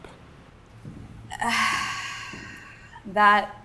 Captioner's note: sighs